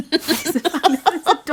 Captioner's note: laughing